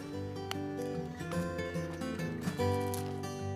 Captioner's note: bean snaps